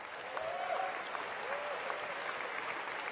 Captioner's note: cheering and applause